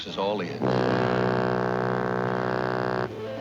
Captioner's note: horn blares